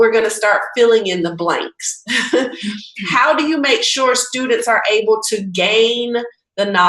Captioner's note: laughing